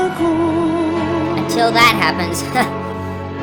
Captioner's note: laughs